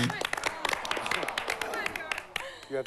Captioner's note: buzz; crowd groans